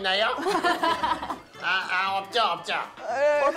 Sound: laughing

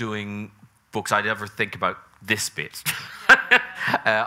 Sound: laughs

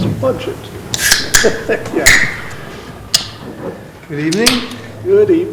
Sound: laughs

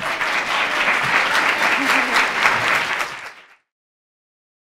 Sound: audience applauding

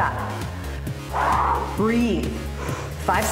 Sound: wheezes

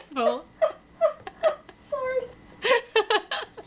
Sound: laughing; laughing offscreen; laughter

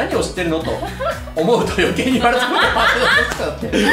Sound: laughs

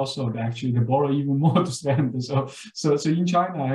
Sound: laughs

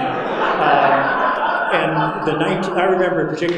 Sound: audience laughing

